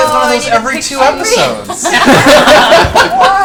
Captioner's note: all laugh